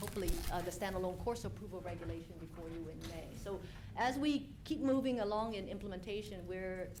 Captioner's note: off mic